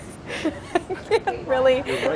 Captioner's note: laughing